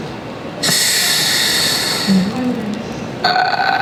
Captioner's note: Carlos breathes in